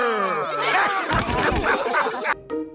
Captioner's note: all laugh